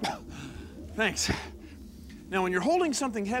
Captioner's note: <i> grunts</i>